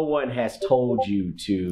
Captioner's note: Discord ping